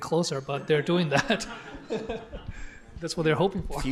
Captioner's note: laughter